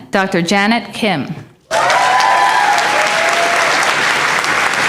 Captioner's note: applause